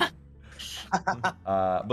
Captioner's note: laughing